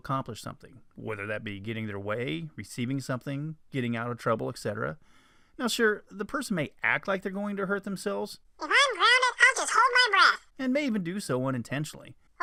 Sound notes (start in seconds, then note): 7.7 kids voice; 10.6 man's voice